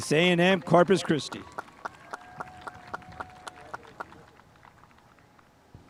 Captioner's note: spectators applauding